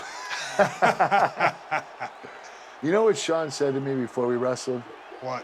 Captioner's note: laugh